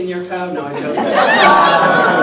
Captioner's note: laughter